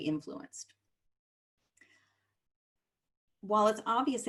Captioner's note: silence